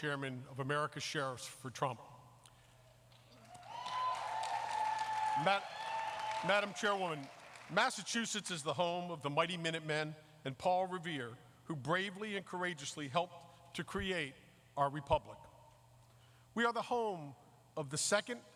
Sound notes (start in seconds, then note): 7.2 applause